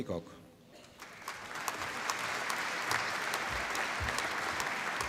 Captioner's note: applause